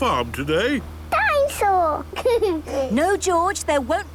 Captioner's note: giggles